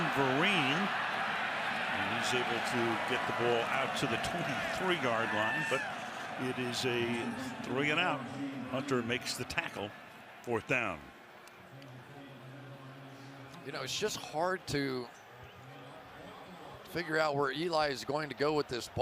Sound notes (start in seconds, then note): 6.2 pa announcement